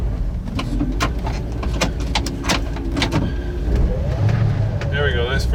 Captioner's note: clanking